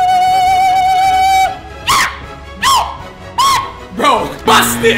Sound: yelling

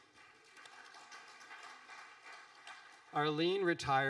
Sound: audience applauding

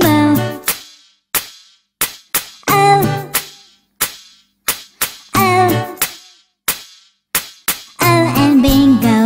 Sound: clap

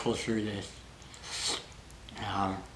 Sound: slurp

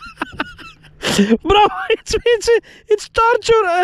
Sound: pain Laugh

